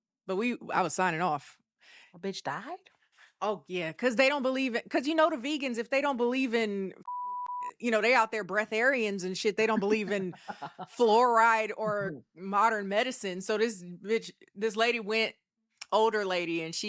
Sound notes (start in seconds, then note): 7.0 beep